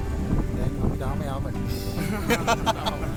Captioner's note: laughing